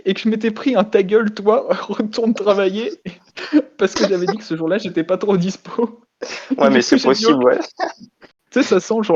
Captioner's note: laugh